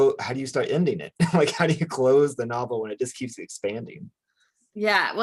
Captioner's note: chuckles